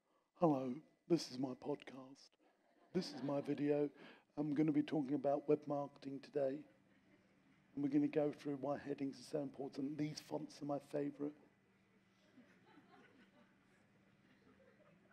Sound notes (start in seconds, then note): 11.7 audience laughs